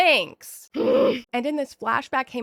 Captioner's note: groan